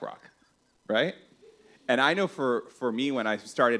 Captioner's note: laughs